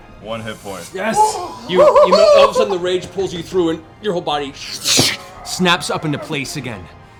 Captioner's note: whipping noise